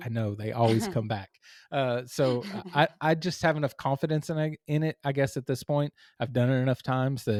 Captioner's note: laugh